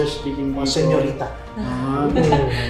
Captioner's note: laugh